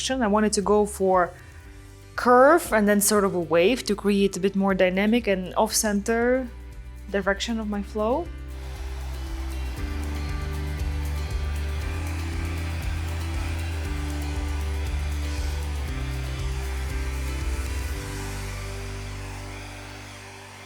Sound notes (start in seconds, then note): 8.7 bright music; 8.7 dryer whirring